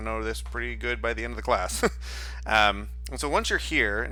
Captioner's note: chuckles